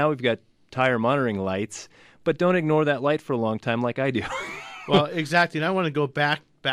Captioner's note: laughs